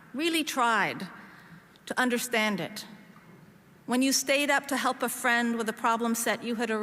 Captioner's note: none